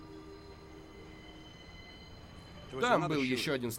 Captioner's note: train squeaking